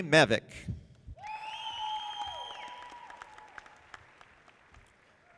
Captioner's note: audience applauding